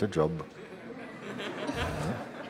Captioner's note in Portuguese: Risos